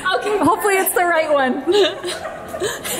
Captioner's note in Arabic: يضحك